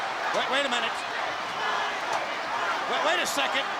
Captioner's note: crowd cheering